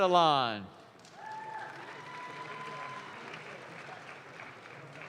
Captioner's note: audience claps